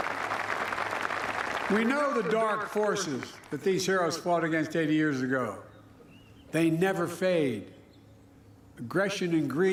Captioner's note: applause